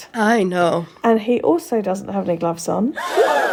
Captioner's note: gasp sound effect